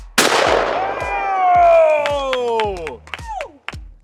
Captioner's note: group cheering